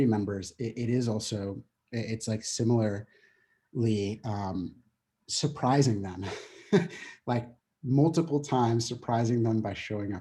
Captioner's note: chuckling